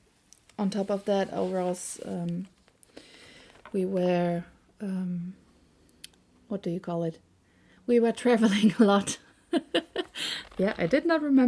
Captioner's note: laughs